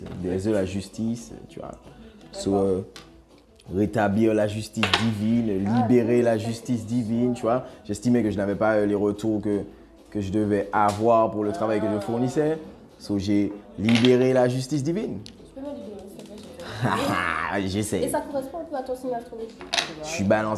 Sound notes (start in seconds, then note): 16.5 laughs